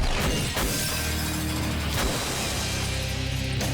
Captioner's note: squashing sound